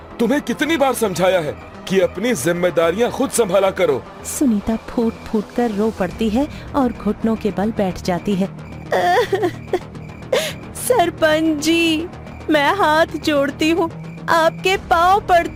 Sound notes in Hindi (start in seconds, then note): 8.9 रोने की आवाज़; 8.9 हंसी